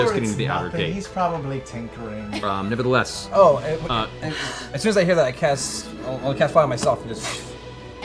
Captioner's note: whoosh